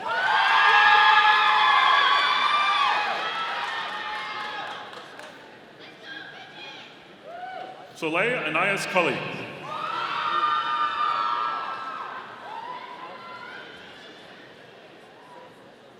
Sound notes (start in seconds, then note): 0.3 audience applauding; 9.9 audience cheering